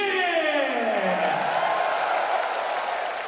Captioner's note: cheers and applause